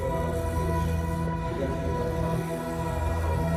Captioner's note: eerie music; men chanting